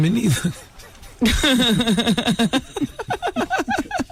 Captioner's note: laughing